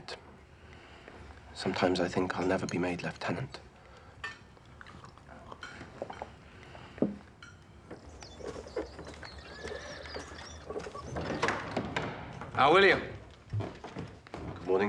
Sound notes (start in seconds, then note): 7.2 birds chirping; 10.6 door opens